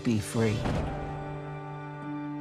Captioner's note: thunder clasp